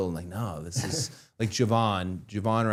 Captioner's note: Matt laughs